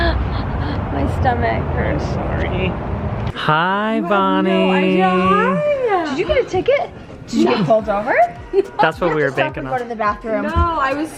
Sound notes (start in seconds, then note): 8.6 laughing